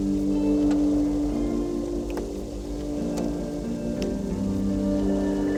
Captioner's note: somber music continues; wind howling